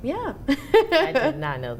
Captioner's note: laughs